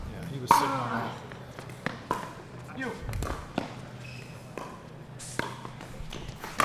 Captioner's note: ball being hit; shoes squeaking